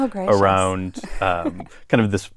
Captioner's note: laugh